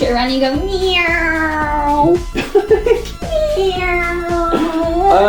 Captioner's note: laughs